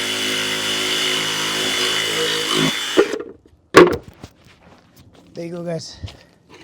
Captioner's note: saw Cutting Sound